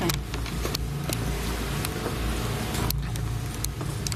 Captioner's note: shuffling